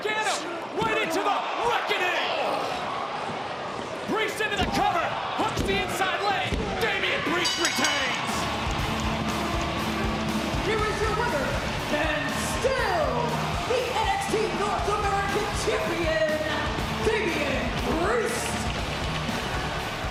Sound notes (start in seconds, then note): 9.4 bell ringing